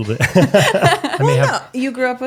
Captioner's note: laughing